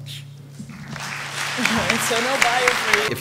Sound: applause

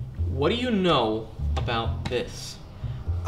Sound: none

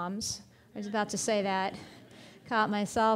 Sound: audience laughing

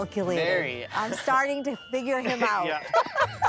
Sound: chuckles; laughs

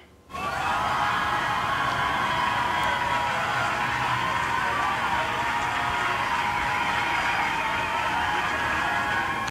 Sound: cheers and applause

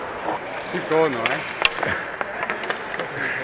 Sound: laughs

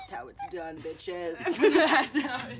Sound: laughter

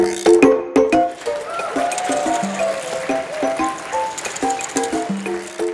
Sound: crowd clapping

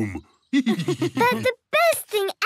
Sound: laughs

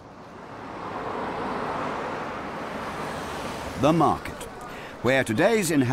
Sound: cars whooshing

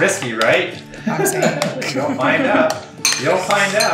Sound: laugh

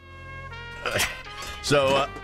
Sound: Archer grunting

